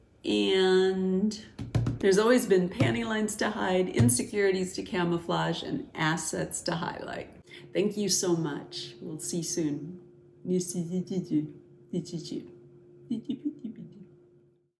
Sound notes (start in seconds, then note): 13.1 funny sounds